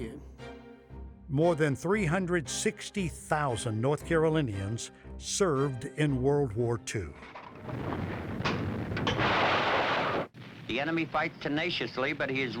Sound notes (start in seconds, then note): 7.5 artillery firing